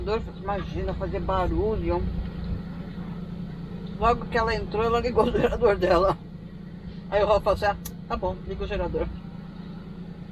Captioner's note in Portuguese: risos